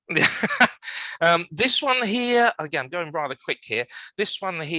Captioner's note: laughs